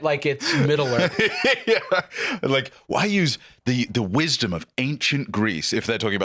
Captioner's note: laughing